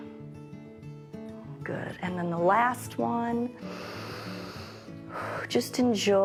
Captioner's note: inhales and exhales